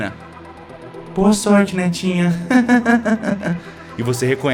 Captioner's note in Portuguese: risada